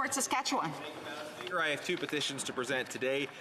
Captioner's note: some applause